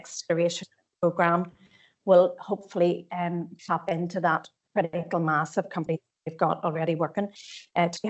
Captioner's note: audio distorts 03.04